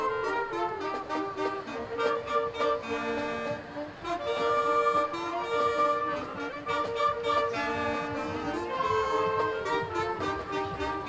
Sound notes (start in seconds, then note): none